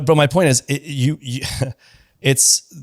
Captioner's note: laughs